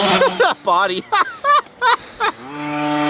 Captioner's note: laughter